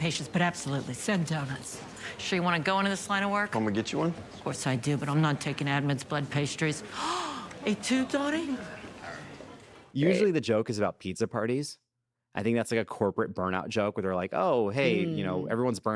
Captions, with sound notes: But absolutely, send donuts. Sure you wanna go into this line of work? -Want me to get you one? -Of course I do, but I'm not taking admins' blood pastries. (GASPS) Et tu, Donnie? Usually the joke is about pizza parties. I think that's like a corporate burnout joke where they're like, "Oh, hey, you know, everyone's burned out,